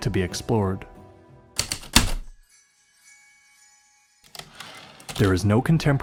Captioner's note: typewriter keystrokes then return slide